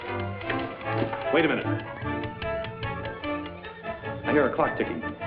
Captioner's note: timer clicking